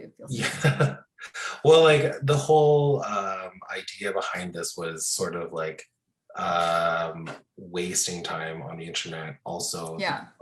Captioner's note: laughs